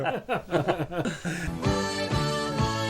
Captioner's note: laughter